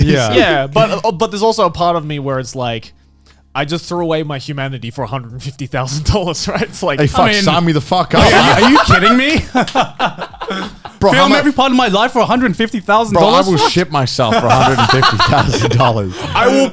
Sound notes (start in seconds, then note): 8.1 all laughing; 10.1 Garnt laughing; 15.6 Joey and Garnt laughing